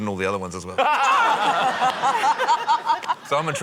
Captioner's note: laughter